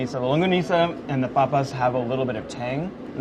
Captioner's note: speaking in foreign language